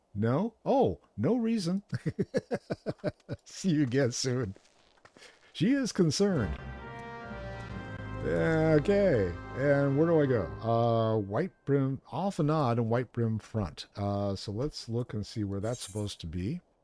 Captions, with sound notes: No, oh, no reason. (laughs) See you again soon. She is concerned. (dramatic music) Okay, and where do I go? Whitebrim, Alphenad and Whitebrim Front. So let's look and see where that's supposed to be.